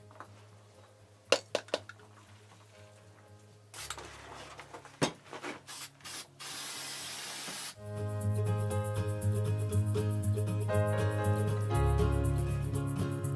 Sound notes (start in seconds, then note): 1.3 taps; 5.6 paint sprays; 7.8 lively, happy music